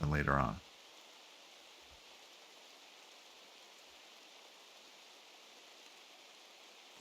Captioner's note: silence